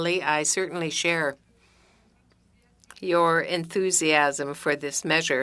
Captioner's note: speaking French